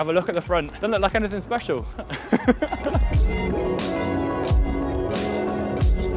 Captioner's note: laughing